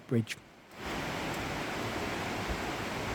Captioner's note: sound of rushing water